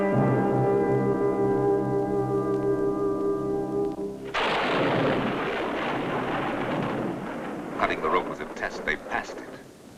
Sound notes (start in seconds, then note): 3.1 thunder rolling